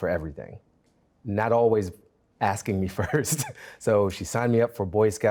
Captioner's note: laughs